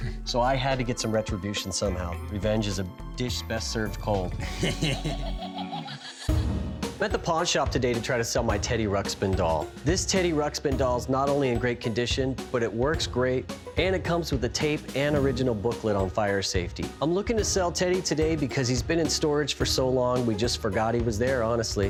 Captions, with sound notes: So I had to get some retribution somehow. Revenge is a dish best served cold. - [chuckles] [toy laughing] - I'm at the pawn shop today to try to sell my Teddy Ruxpin doll. This Teddy Ruxpin doll's not only in great condition, but it works great, and it comes with a tape and original booklet on fire safety. I'm looking to sell Teddy today because he's been in storage for so long, we just forgot he was there, honestly.